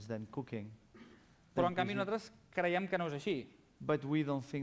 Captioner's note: non-english speech